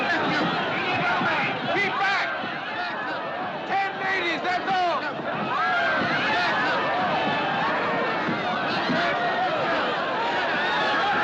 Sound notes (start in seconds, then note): 5.5 Gritos